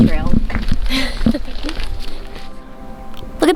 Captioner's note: laughs